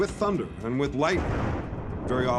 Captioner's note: thunder